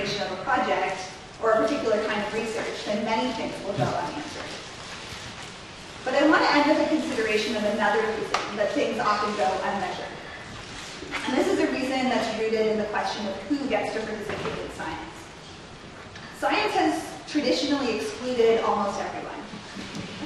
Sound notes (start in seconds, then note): none